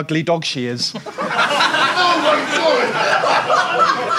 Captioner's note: audience laughs